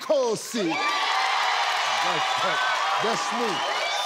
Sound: cheering

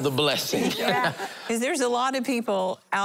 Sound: laughing

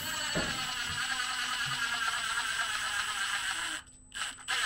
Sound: drill whirring

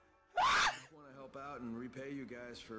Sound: screaming

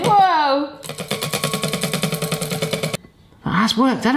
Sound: sticks banging on bowl

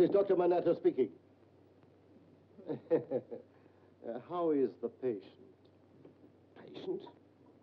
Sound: chuckles

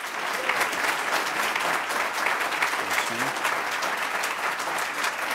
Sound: applause

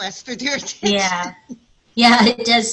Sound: laughs

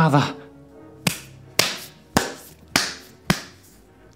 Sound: punches

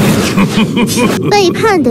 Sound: laughing

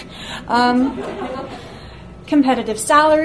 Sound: audience laughs

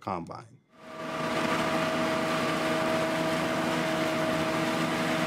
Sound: combine engine roaring

